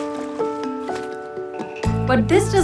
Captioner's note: splash